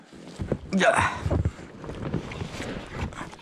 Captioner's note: middle age grunting